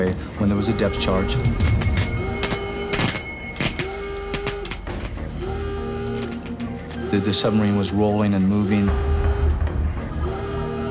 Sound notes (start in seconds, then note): 3.1 electricity crackling; 7.0 alarm sounding